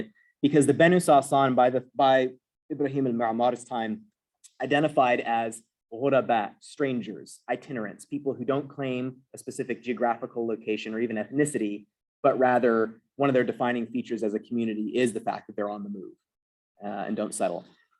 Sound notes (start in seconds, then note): 5.3 non-english